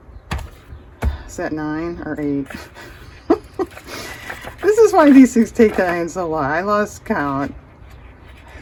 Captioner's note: laughs